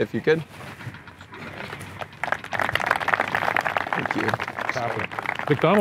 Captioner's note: audience clapping